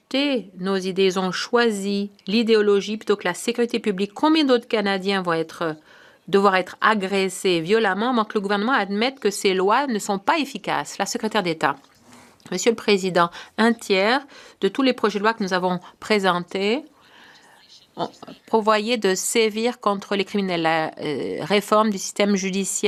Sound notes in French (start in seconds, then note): 17.6 voix de l'interprète